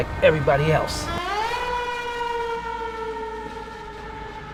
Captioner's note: siren wails